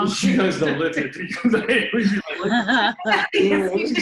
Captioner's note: laughs